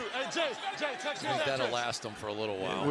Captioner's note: onfield chatter